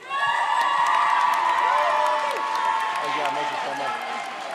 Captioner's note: audience cheers